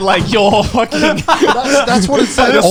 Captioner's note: laughing